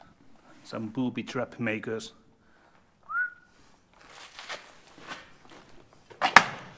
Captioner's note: whistles